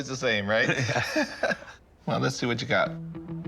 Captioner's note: laughs; laughter